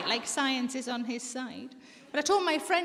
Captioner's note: audience laughing